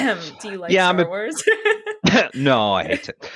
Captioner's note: laughs